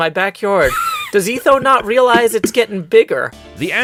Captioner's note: wheeze-laughs